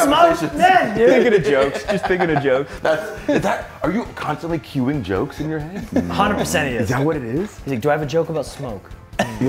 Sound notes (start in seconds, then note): 1.2 laugh